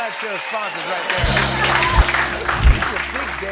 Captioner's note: cheering and applause